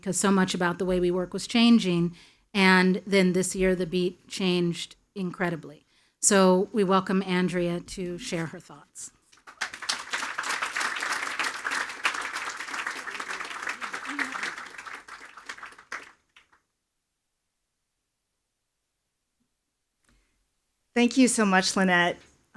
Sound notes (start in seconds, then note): 9.3 attendees applauding; 13.3 speaking faintly